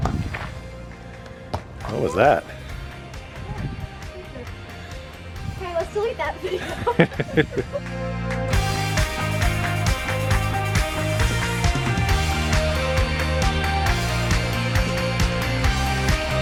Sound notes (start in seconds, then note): 6.4 dad laughs; 8.9 upbeat music